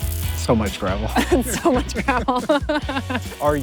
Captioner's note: chuckles